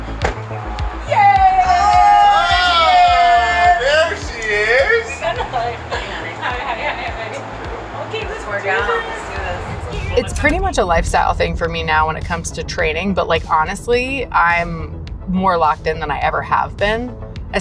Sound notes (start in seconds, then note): 1.7 yelling